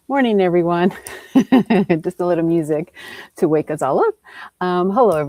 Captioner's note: chuckles